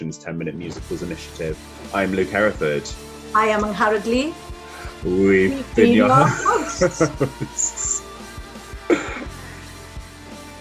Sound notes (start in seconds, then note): 5.6 both laughing, trying to say it at the same time